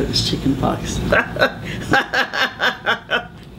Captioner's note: laughing